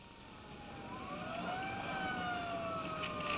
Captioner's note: sirens wailing